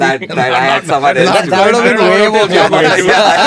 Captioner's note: laughs